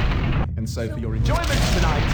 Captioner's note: crashing sounds